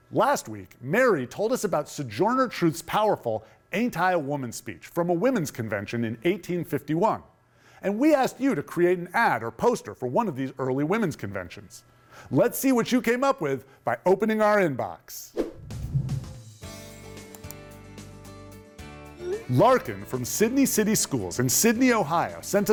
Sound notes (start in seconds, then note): 15.3 screen whooshing; 15.6 mouse clicking